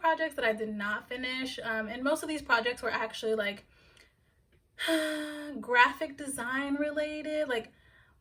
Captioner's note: sigh